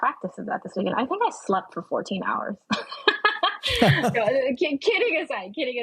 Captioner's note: laughing